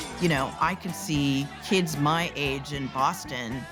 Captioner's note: glass breaks